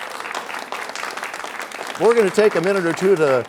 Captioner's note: applause